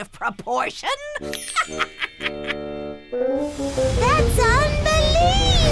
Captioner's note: laughing